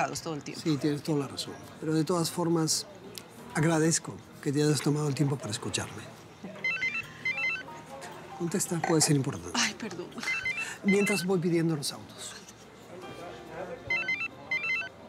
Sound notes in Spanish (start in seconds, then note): 6.0 suena un celular; 11.4 celular sigue sonando